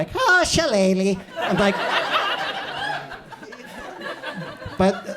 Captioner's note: audience laughs